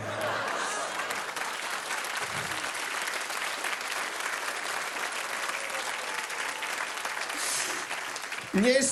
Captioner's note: applause